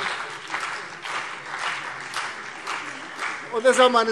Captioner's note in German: Beifall CDU und BÜNDNIS 90/DIE GRÜNEN